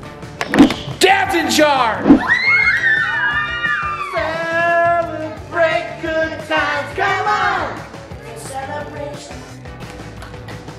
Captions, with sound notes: Dad's in charge. (screaming) Celebrate good times, come on. Celebration.